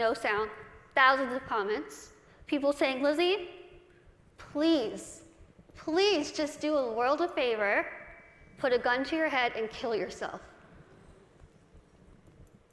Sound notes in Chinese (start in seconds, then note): none